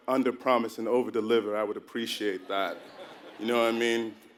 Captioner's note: laugh